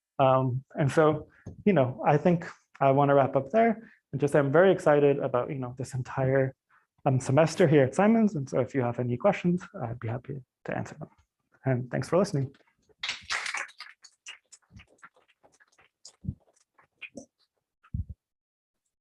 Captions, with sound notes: Um, and so, you know, I think I wanna wrap up there and just say I'm very excited about, you know, this entire semester here at Simons. And so if you have any questions, I'd be happy to answer them, and thanks for listening. (applause)